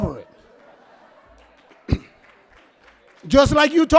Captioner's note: audience laughs